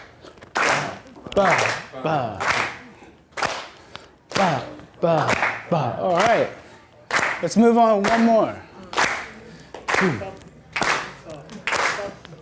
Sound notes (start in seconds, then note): 8.7 clapping